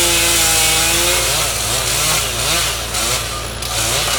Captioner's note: chainsaw humming